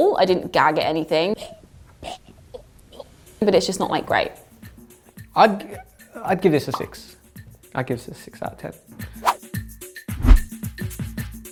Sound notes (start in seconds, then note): 1.6 gagging; 9.7 upbeat corny music; 10.2 whoosh